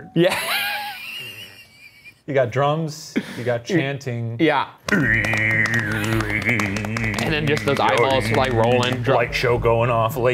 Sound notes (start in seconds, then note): 1.2 laughs; 4.8 imitates drumming